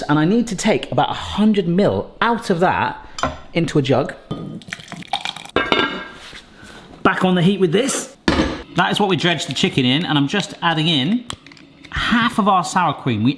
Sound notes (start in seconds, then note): 4.4 stock sloshing; 5.6 lid clanks